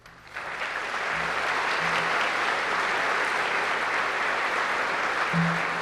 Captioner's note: applause